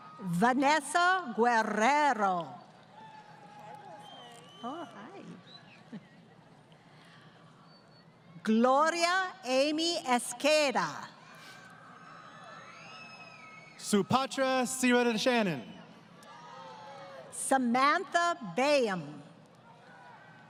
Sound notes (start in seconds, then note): 6.1 laughing